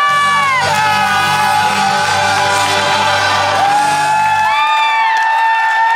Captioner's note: crowd cheering and applauding